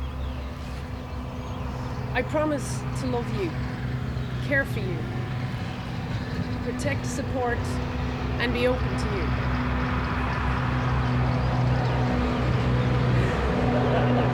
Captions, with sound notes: I promise to love you, care for you, protect, support, and be open to you. (engine rumbling)